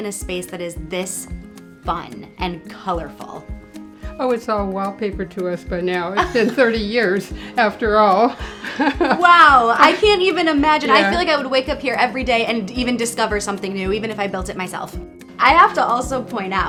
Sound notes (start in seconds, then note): 6.2 laughs